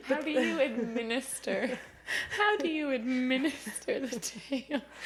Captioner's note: laughing